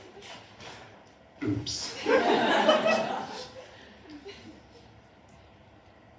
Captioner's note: laughter